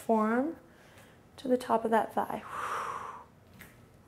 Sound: exhales

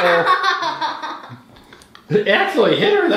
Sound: laughing

